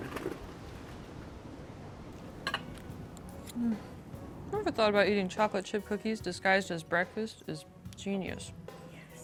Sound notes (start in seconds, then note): 2.2 slow music; 2.4 silverware clinking